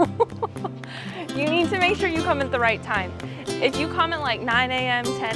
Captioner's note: laughs